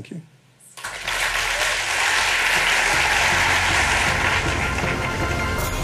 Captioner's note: applause